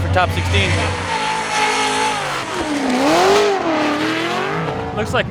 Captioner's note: car engine roars